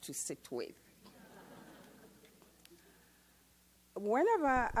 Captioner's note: audience laughs